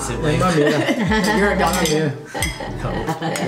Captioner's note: laughs